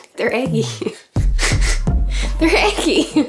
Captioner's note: chuckles